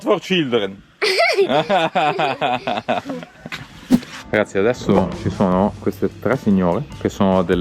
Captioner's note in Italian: Risate